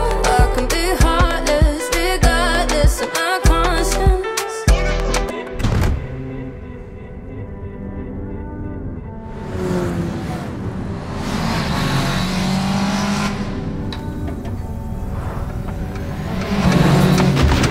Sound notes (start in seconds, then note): 6.0 soft music; 9.2 engine revving